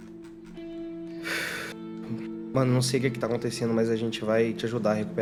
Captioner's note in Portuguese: suspiro